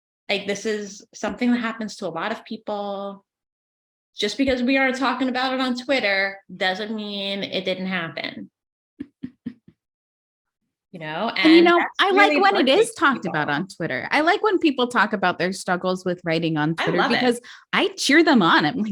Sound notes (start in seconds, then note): 9.1 laughs